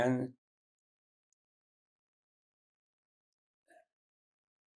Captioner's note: pauses 8 seconds